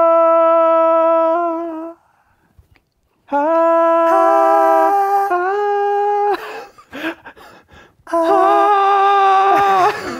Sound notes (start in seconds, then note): 0.0 vocalizes; 3.3 vocalize